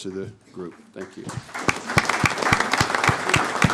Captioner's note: applause